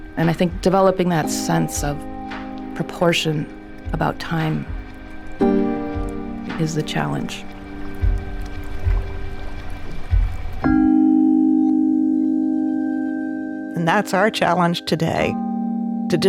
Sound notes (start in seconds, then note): 7.7 bells chime